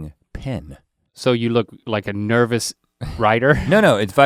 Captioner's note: chuckles